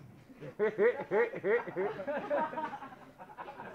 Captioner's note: audience laughing